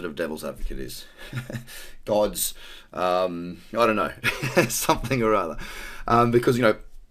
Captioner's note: laughs